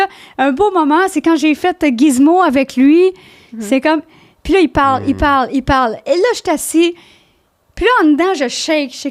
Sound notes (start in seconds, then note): 0.0 in french; 4.4 in french